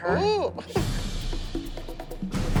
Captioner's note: laughs